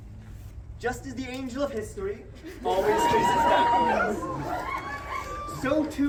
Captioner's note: crowd cheers